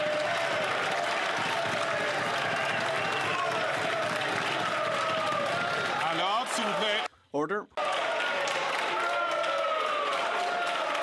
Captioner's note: some Applause